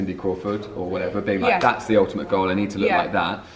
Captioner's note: claps